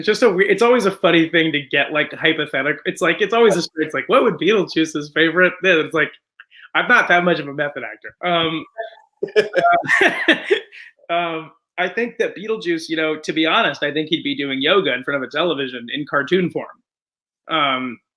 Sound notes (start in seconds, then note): 9.2 laughter